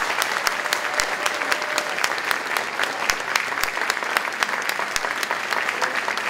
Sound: applause

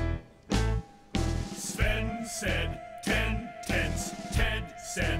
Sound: monkeys singing

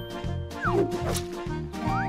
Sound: none

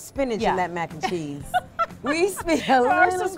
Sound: laughs

